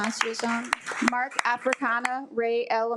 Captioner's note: attendees applaud